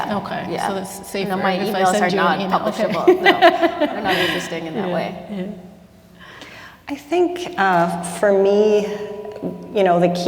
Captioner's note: laughter